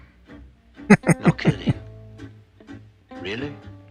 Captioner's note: chuckling